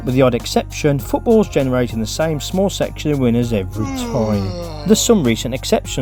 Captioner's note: zzz yawn